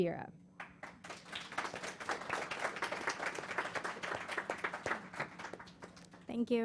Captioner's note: applause